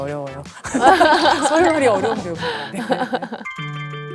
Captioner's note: laughing